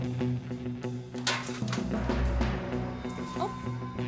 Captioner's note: door clicks open